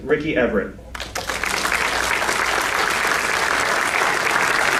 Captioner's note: applause